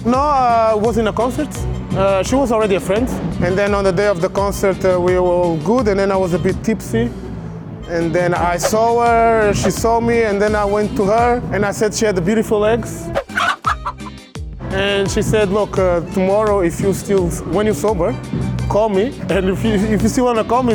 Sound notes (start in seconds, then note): 13.1 chicken sound